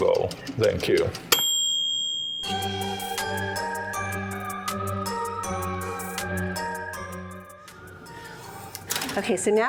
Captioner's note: kitchen Timer Dings; spooky Music